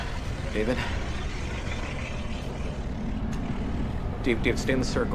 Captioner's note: growling